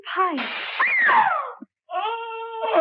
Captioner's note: glass breaks; Eileen screams; Pike groans